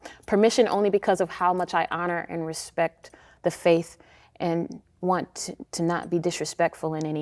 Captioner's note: none